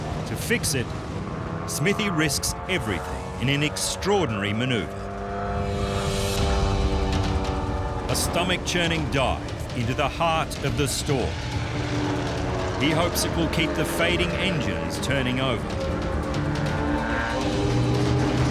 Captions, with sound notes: To fix it, Smithy risks everything in an extraordinary maneuver. [engine roaring] A stomach-churning dive into the heart of the storm. He hopes it will keep the fading engines turning over. [suspenseful music]